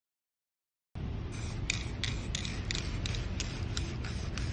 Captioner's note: paint can hissing